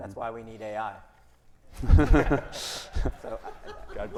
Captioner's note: everyone laughing